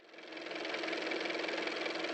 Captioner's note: car motor